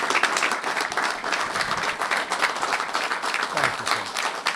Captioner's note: applause